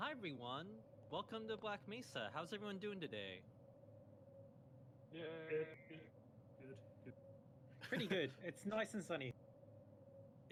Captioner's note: general agreeable noises